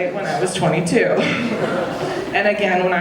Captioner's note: audience laughing